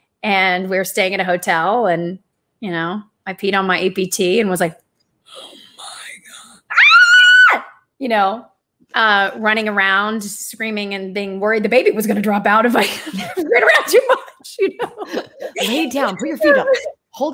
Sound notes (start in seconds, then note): 6.7 screams; 12.8 laughs